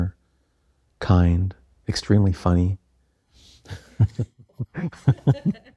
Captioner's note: laughter